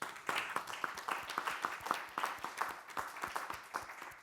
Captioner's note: everybody applauding